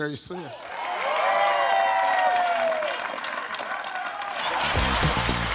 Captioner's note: audience applauding; upbeat music